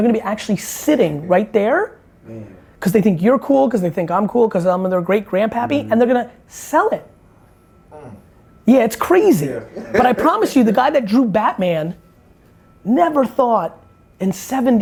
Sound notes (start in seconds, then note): 9.6 laughs